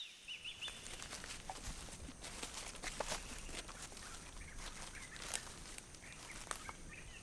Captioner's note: birds chirping; rustling